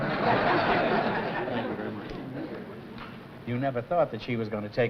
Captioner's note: laughter